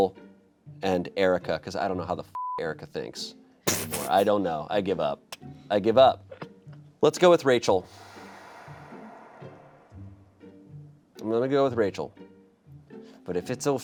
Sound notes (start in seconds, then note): 2.3 beep